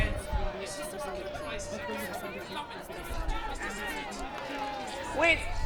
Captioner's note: crowd